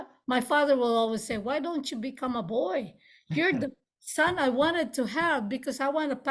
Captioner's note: laughs